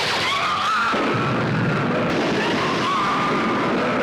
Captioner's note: people screaming